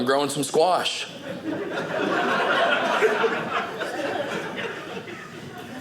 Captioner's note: audience laughing